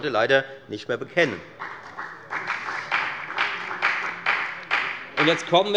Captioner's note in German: Beifall bei der FDP